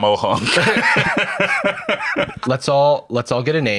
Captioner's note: laughs